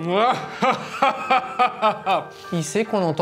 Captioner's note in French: rire passablement ridicule